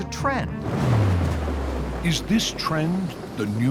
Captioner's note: thunderclap